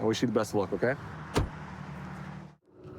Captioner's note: door bangs